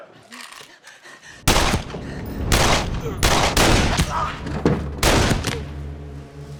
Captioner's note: gunshots